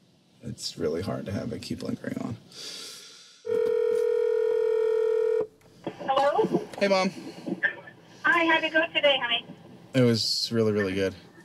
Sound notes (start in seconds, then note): 3.5 phone dialing